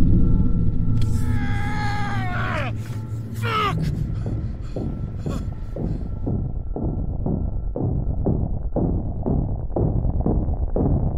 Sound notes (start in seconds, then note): 1.9 yelling; 3.3 rhythmic thumping